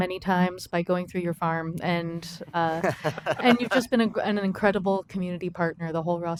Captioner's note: laughter